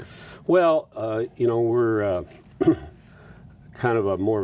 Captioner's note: clears throat